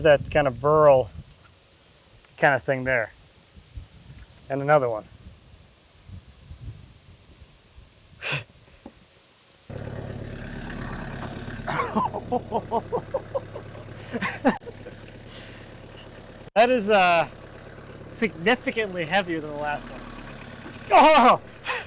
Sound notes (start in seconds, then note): 10.2 engine running; 11.6 laughs